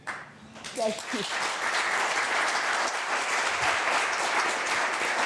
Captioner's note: audience clapping